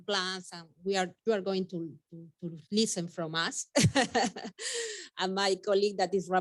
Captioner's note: laughing